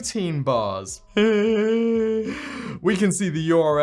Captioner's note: breathes